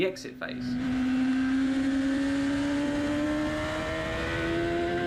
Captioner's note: engine roaring